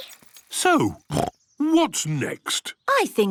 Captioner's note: snorts